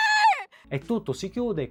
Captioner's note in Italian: urlo; pianto